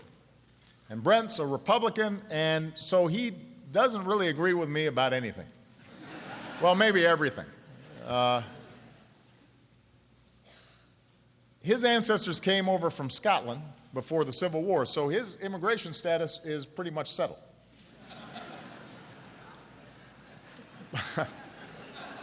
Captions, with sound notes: Georgia. And Brett is a Republican, and so he doesn’t really agree with me about anything. (Laughter.) Well, maybe everything. His ancestors came over from Scotland before the Civil War, so his immigration status is pretty much settled. (Laughter.) But he’s done missionary work